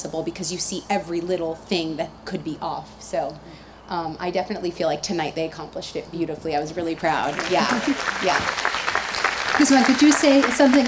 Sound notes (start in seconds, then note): 6.9 audience applauds